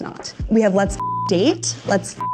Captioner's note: beep